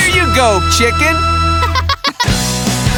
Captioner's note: clucking